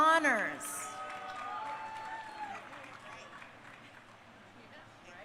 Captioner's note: crowd cheering